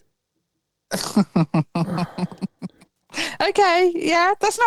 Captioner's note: laughs